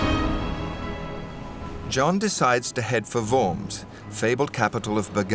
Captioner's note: voiceover